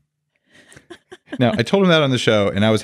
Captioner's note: laughs